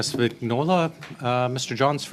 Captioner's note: speaking French